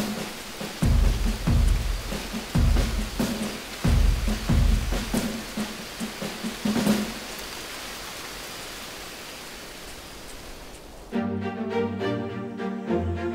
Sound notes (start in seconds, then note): 0.0 heavy rain